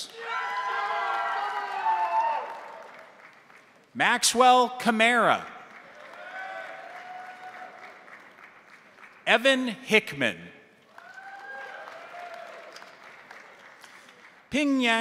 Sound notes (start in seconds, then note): 0.0 crowd cheering; 0.0 crowd applauding; 5.6 crowd applauding; 5.8 crowd cheering; 10.8 crowd applauding; 10.9 crowd cheering